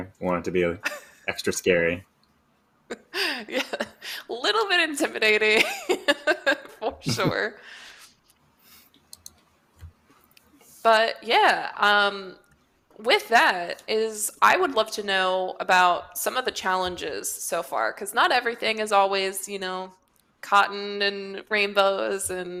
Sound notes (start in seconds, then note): 5.6 laughs